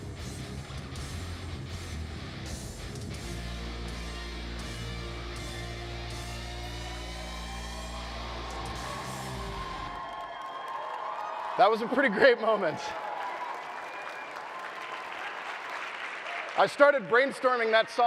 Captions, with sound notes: (audience cheering) That was a pretty great moment. (audience cheering) I started brainstorming that song